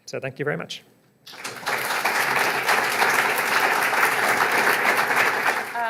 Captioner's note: applause